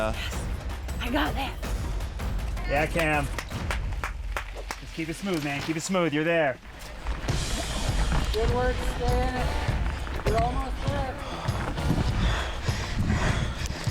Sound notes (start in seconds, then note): 2.8 claps; 7.3 upbeat music; 11.2 panting